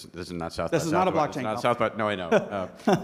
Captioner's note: laughing